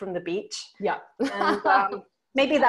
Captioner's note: laughs